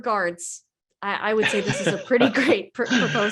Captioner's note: laughs